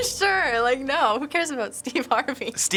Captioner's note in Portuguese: Risos